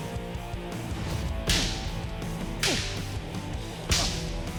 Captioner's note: striking sound